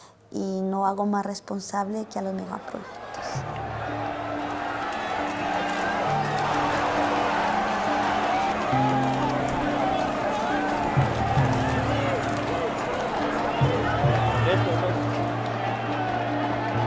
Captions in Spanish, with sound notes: Y no hago más responsable que a los mega proyectos. [Gritos de protesta]